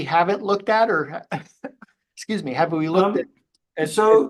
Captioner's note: coughs